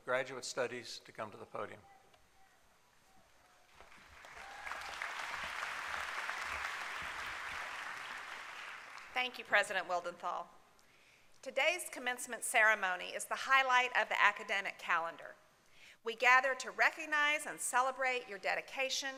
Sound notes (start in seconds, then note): 6.8 applause